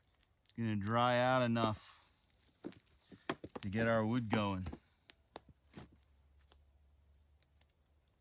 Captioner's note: twigs snapping, fire crackling